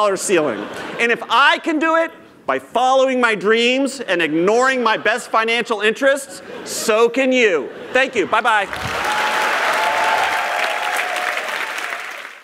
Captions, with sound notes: ceiling and if I can do it by following my dreams and ignoring my best financial interests, so can you. Thank you, bye bye. [applause] [cheers]